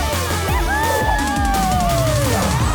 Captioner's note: cheering